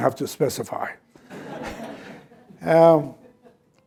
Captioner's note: laughter